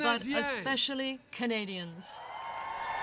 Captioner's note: speaking French